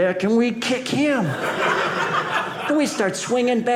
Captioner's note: audience laughing